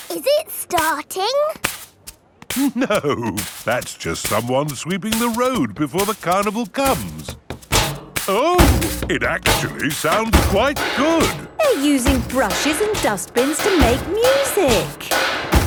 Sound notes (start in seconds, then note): 10.5 rhythmic clanging